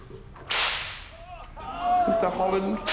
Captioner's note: whip cracking